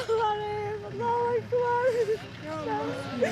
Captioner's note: woman crying